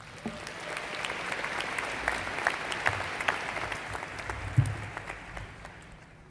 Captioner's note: applause